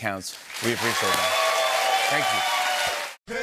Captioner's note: cheers and applause